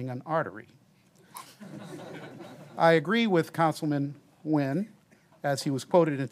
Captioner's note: laughter